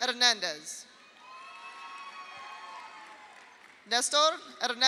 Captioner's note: audience cheers; audience applauds